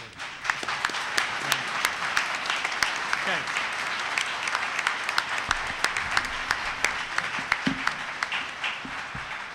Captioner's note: applause